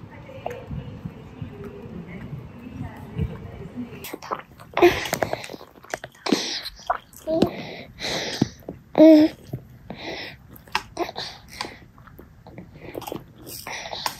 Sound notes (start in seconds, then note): 4.4 gulp gulp